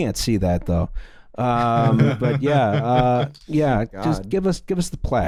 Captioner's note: laughter